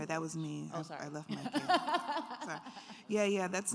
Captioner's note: laughs